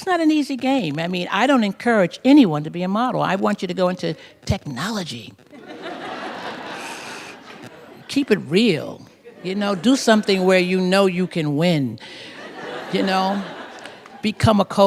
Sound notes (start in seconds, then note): 5.5 laughter